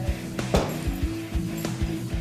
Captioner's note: sounding gavel